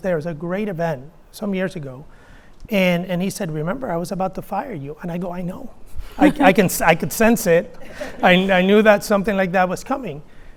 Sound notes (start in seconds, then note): 6.2 interviewer laughs